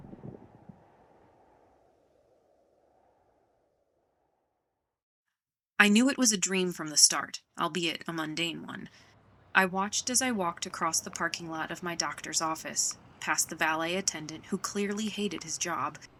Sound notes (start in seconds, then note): 0.0 thunder; 0.0 wind howling